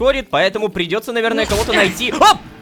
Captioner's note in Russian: Звук ломающейся двери